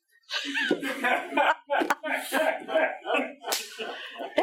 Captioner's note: all laughing